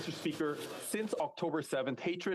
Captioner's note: speaking French